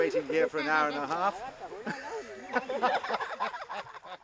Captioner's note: laughs